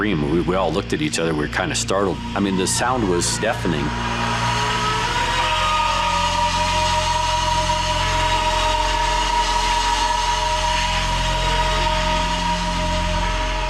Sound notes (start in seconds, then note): 5.0 fire groaning